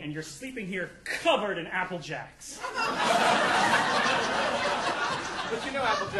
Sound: audience laughing

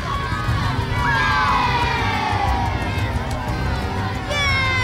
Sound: crowd cheers

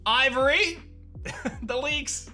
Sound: chuckles

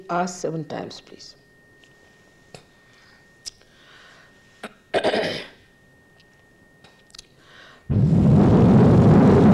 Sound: Shri Mataji blows into the microphone

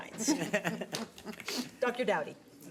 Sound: board members laugh

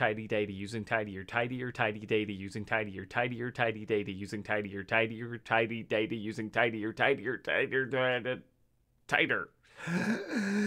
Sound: breathes in deeply

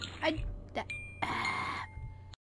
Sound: exasperated sigh

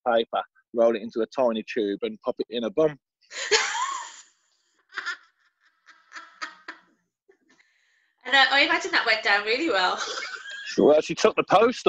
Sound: laughter

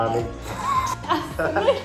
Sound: both laugh

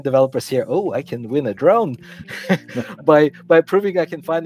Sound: laughing

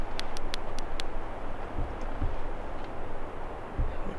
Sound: camera clicking

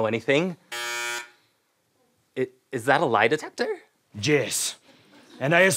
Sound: buzzing

